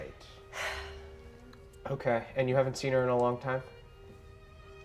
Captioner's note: sighs